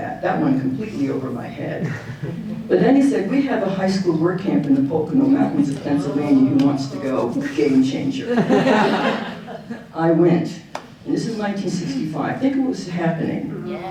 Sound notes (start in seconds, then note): 8.2 audience laughing